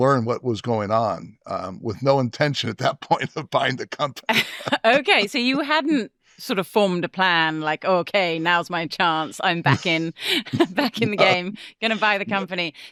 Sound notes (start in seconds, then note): 4.4 chuckling